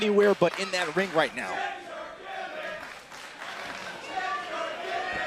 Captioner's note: crowd cheering